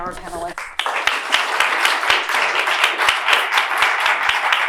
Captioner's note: applause